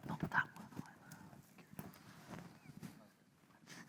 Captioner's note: Mary whispers